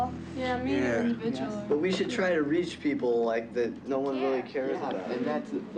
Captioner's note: crowd murmuring